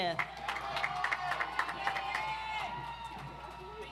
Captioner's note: audience applauds